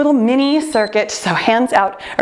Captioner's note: timer beeps